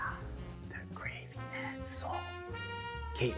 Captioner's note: whispering